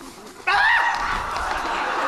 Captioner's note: Robin shrieks